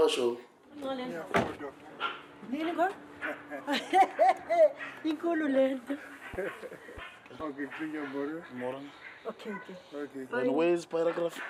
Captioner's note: speaking xhosa